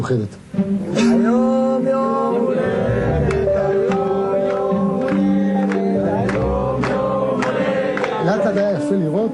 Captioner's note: in hebrew